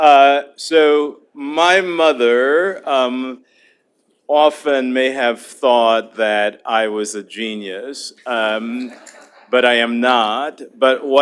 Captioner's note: laughter